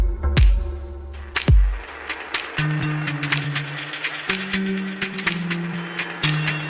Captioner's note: applause